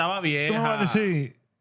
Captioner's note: speaking Spanish